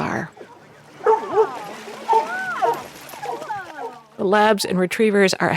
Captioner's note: dogs barking